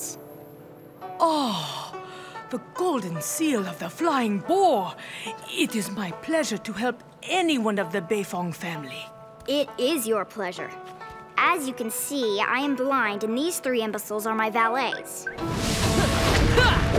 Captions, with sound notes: [gasping] The golden seal of the flying boar. It is my pleasure to help anyone of the Beifong family. It is your pleasure. As you can see, I am blind, and these three imbeciles are my valets. [grunting]